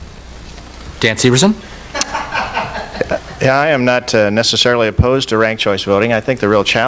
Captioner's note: off camera laughter